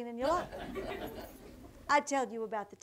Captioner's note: audience laughter